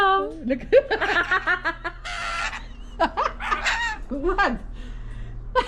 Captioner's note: laughter